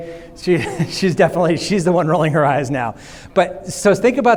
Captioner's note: laughs